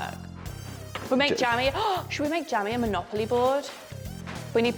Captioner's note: gasps